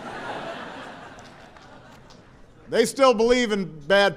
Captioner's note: laughter